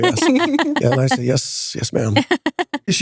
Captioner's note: laughing